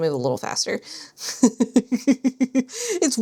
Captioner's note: laughs